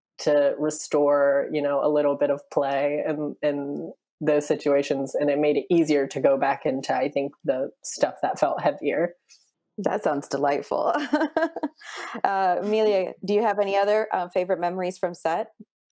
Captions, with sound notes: to restore a little bit of play in those situations. And it made it easier to go back into the stuff that felt heavier. - That sounds delightful. (laughs) - Emilia, do you have any other favorite memories from set?